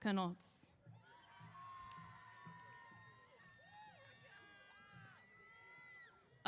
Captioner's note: cheers